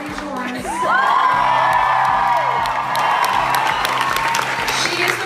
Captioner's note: applause, cheers